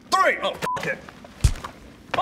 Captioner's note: wallop